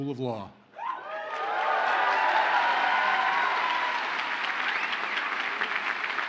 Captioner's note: audience cheers and applauds